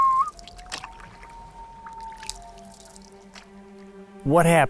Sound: loon wailing

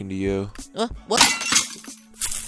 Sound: glass Shattering

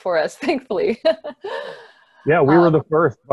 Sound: laughs

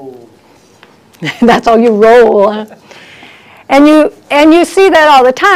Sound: laughs

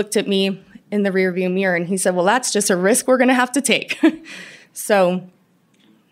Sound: laughter

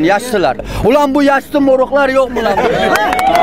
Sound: gigglings and clappings

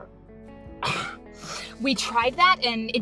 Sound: scoffs

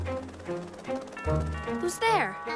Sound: doorbell ringing

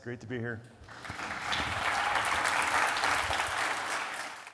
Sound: audience applauding

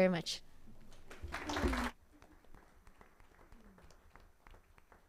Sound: all applauding

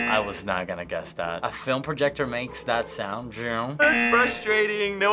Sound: imitating lightsaber

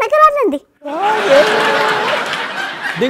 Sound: laughter

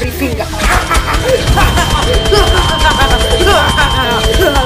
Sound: canada's alarm goes off; evil laugh

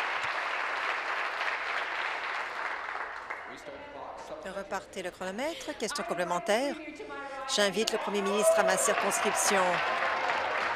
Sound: applause

